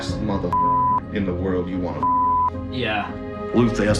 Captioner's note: beep